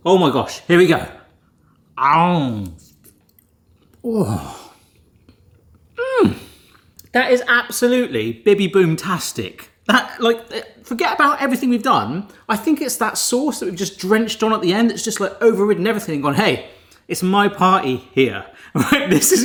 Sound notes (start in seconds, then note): 2.4 groans; 6.0 moans